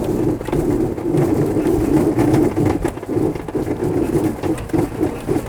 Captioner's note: aircraft continues whirring